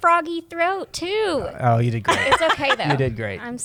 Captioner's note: laughs